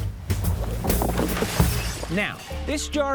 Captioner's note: low rhythmic music; items crashing